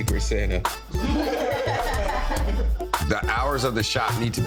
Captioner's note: everyone laughing